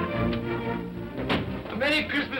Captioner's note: door bangs open